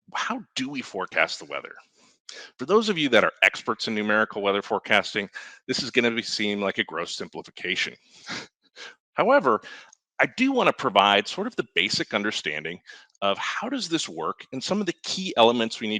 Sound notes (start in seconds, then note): 9.2 chuckles